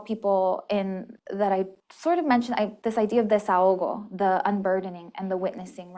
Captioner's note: spanish